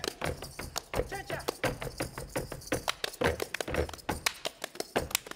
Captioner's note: speaking language other than English; feet stomping and hands clapping